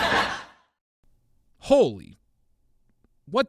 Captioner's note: crowd laughs